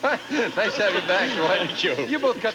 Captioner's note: audience laughing